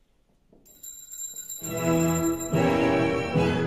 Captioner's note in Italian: NORINA suona il campanello